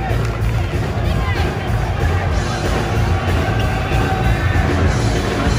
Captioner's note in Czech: Potlesk